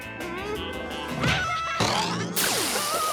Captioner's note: laughing